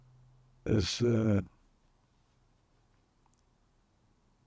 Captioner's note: pauses 6 seconds